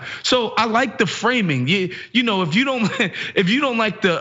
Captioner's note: laugh